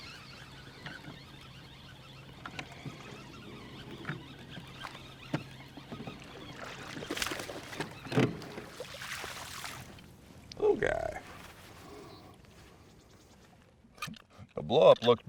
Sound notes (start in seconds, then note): 0.0 reel cranking; 8.1 fish splashing